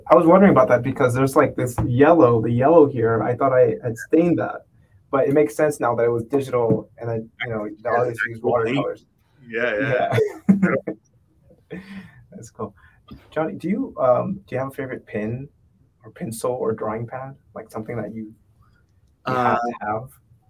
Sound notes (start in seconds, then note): 9.5 laughs